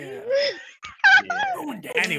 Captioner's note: laughing